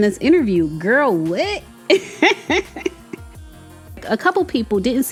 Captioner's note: laughs